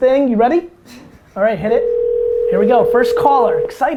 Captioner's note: phone ringing